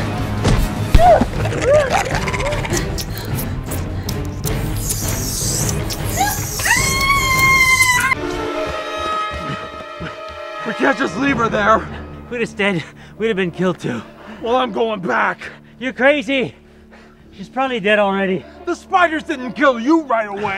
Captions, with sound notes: [smack] [grunt] Rah Rah [spider sounds] [spraying webs sound] Aaaaaah! We can't just leave her there. If we had stayed we would have been killed too. Well I'm going back. You're crazy She's probably dead already. The spiders didn't kill you right away.